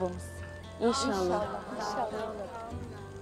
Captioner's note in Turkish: Hep bir ağızdan